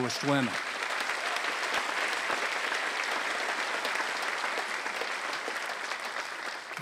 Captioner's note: applause